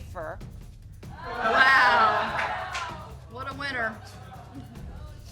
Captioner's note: audience exclaiming